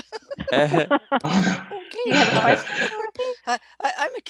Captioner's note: laughter